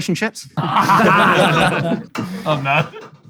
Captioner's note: people in room laughing